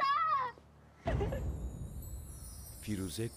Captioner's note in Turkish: Ağlama sesi